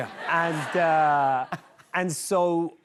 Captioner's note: laughter